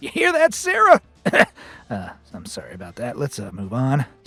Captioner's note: clears throat